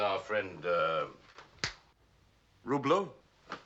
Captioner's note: snaps